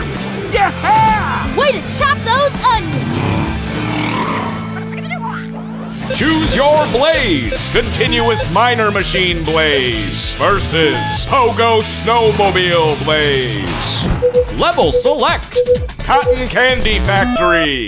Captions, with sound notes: - Yeah! - Way to chop those onions! [squeaking] Choose your Blaze! Continuous Miner Machine Blaze versus Pogo Snowmobile Blaze! Level select! Cotton Candy Factory!